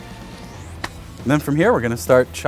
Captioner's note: claps hands